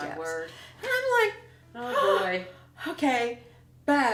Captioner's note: whimpers